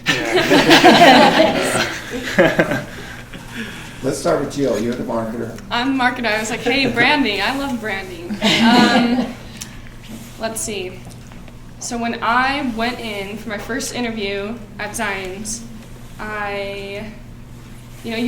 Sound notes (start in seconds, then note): 0.0 laughing; 8.2 laughing